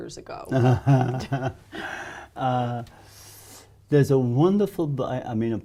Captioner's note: laughs